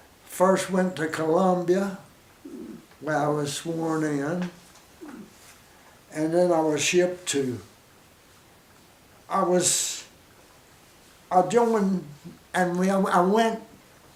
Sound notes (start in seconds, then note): 8.0 pause; 10.3 pause